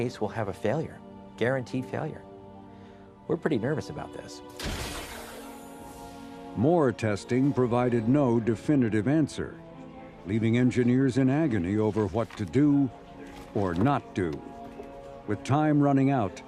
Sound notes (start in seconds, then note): 6.2 loud bang